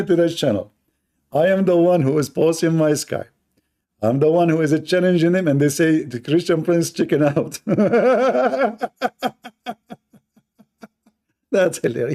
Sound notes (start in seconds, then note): 7.5 Ketawa